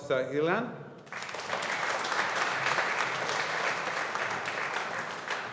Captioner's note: audience applauding